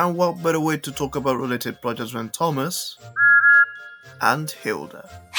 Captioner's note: thomas whistles